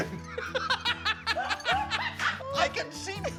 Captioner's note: both laughing